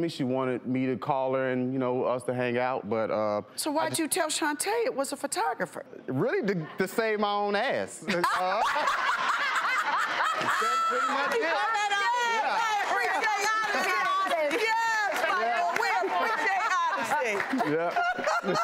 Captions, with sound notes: She wanted me to call her and us to hang out but-- So why did you tell Shunta that it was a photographer? Really just to save my own ass! (panel and audience laughing) That's pretty much it! Yes, Michael! We appreciate honesty! Yes, Michael! We appreciate honesty!